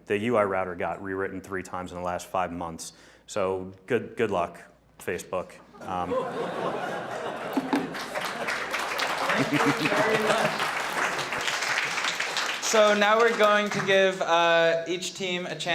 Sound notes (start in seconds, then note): 5.8 audience laughing; 7.0 audience clapping